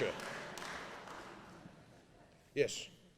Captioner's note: applause